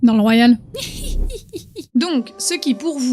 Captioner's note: laugh